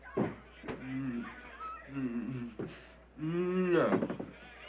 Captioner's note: groaning